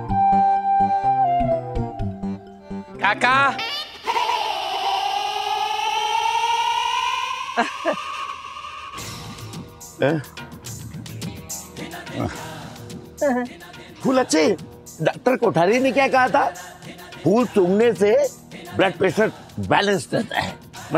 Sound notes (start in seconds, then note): 7.5 chuckles